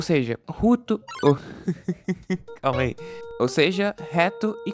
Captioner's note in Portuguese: risadas